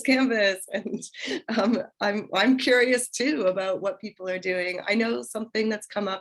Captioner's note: laughter